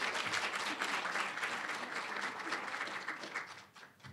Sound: applause, cheering; applause

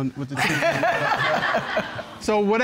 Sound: all laugh

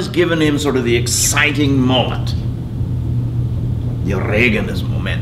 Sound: speaking foreign language

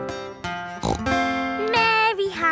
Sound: snorts

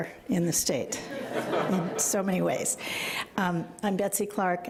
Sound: audience chuckles

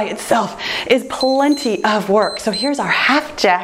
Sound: timer beeps

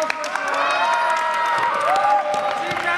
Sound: staff cheering

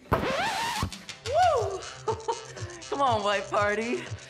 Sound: record scratches; chuckles

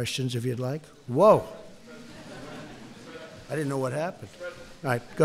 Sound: laughter

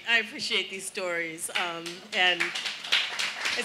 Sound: audience applauding

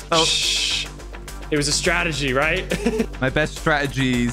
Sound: laughs

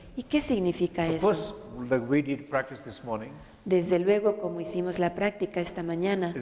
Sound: Spanish; Spanish

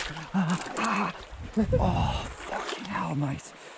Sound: grunting

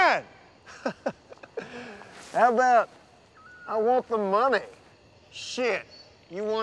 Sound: laughs

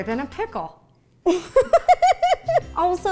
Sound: Ro laughs

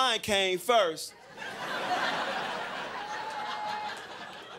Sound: crowd laughing

